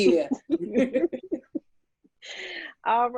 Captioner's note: laughing